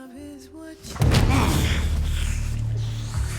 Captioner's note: grunting